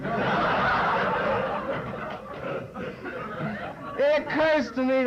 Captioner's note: laughter